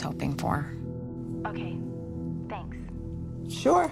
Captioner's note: on phone